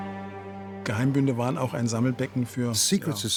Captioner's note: speaking in German